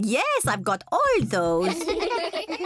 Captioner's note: kids giggling